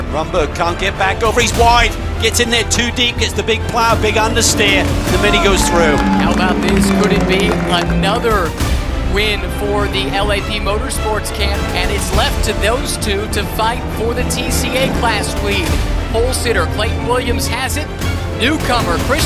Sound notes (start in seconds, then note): 5.5 crowd cheering